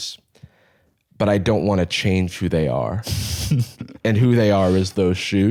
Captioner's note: chuckles